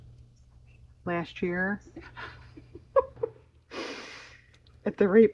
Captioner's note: laughs